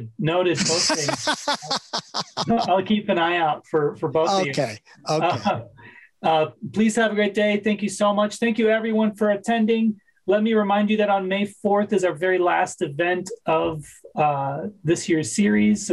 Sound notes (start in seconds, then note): 0.5 laughs; 6.0 laughs